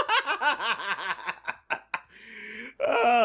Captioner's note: laughter